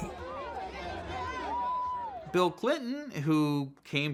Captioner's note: hubbub of voices